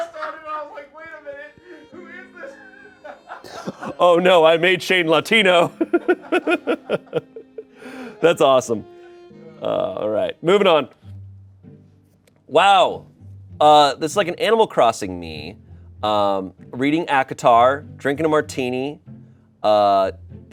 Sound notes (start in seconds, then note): 0.0 everyone laughs; 5.6 laughs